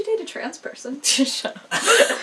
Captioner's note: laughing